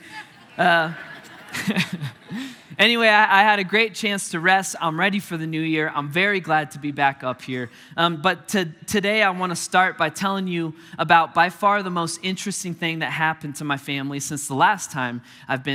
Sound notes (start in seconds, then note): 0.0 chuckling